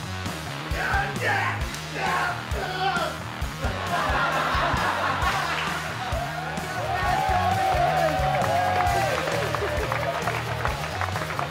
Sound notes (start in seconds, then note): 0.3 sumos grunting; 3.6 laughter; 6.7 cheering and applause